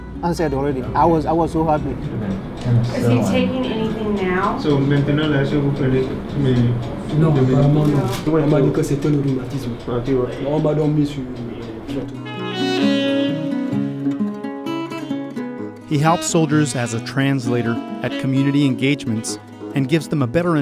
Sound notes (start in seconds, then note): 6.0 asking question and getting answer in French; 12.1 jazzy music